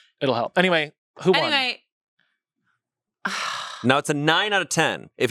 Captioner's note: exhales